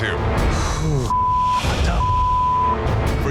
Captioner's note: Sausage exhaling